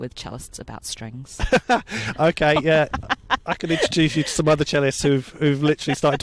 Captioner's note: laughs